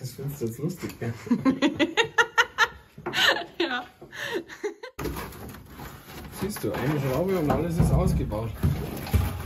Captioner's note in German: Gelächter